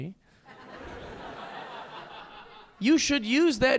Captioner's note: audience laughing